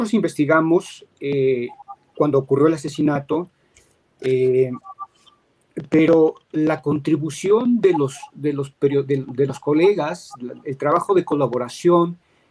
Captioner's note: speaking in Spanish